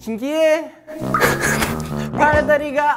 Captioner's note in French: Haha